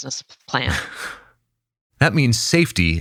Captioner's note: laughs